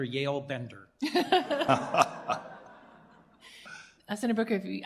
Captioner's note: laughter